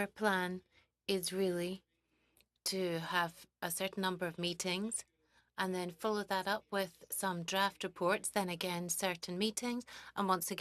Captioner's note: speaking French